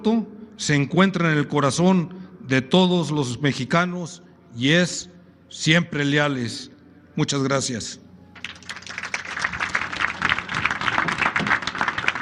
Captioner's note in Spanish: aplausos